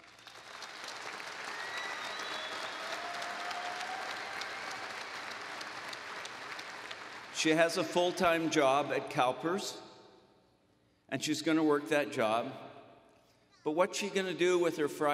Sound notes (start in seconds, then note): 0.0 applause